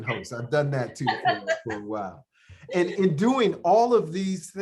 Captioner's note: laughter